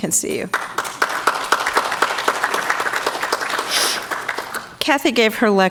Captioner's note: audience clapping